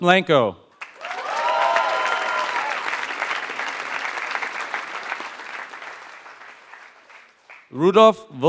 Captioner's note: applause